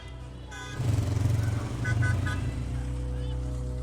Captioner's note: revving sound